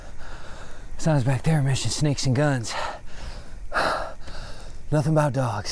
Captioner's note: sighs